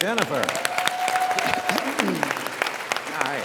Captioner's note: audience applauds